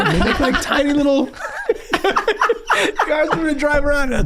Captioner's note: gang laughing